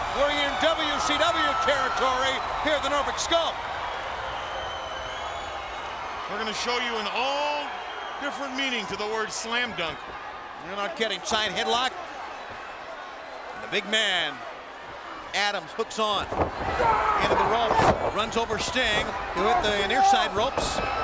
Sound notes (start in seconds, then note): 4.1 crowd whistling, shouting; 15.9 wrestler shouting; 16.3 ropes, floor thumping; 19.4 wrestler yelling